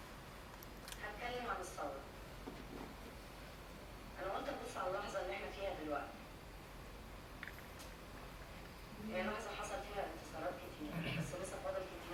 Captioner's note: speaking foreign language